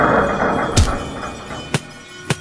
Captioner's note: intense chords; thump; thumping and screaming